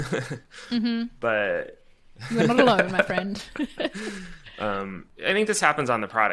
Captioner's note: laughing